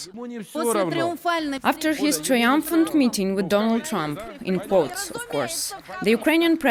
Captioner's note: through translator